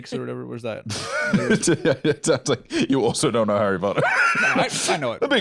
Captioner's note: laughs